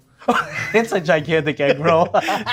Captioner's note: laughing